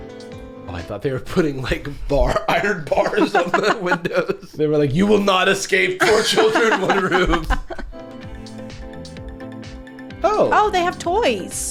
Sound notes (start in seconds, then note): 2.2 laughing; 6.0 laughing